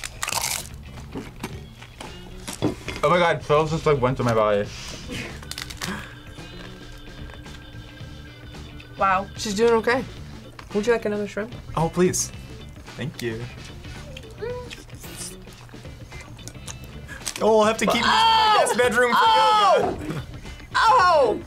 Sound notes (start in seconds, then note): 0.0 taco crunches; 5.1 taco crunches